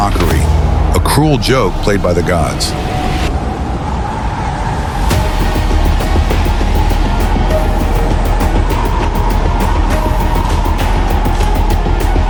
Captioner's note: to himself, voice heavy